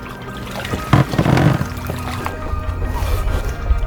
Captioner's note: water splashing; light intense music